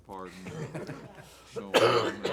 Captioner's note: members laugh